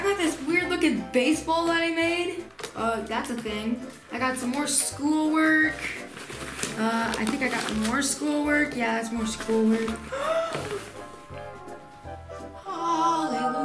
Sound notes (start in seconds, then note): 10.0 gasping